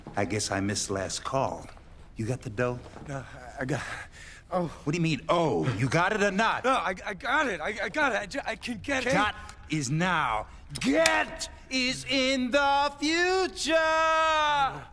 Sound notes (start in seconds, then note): 6.8 stuttering